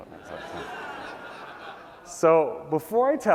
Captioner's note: laughter